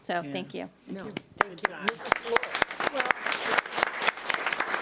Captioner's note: applause